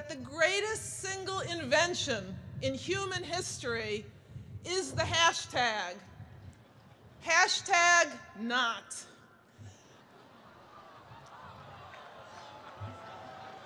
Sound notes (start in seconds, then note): 9.9 jeers and laughter